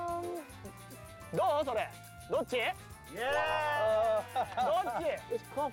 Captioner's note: speaking Japanese